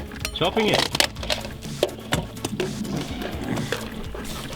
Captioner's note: alarm box clatters